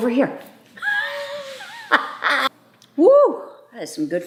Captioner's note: mom laughing